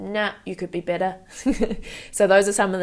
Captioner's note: chuckles